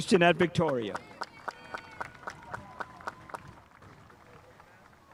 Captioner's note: spectators applauding